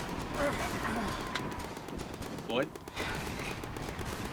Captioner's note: Floyd groaning